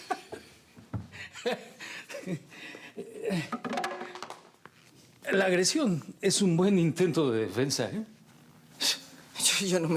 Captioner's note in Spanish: Risas